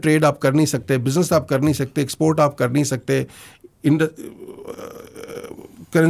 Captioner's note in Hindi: कराहने की आवाज़